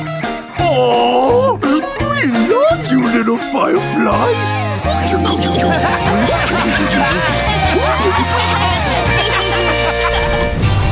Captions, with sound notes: Aww... we love you, little firefly! [cooing, laughing]